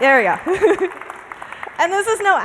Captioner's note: applause